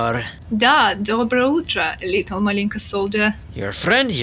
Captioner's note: speaking Russian, Saying "Good Morning Little Solider"